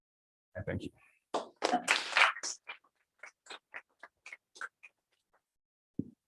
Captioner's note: applause